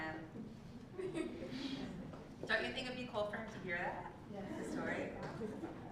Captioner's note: laugh